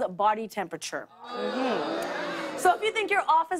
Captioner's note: audience boos